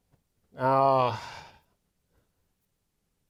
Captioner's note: annoyed sigh